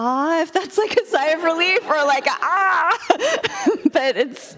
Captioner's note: shouts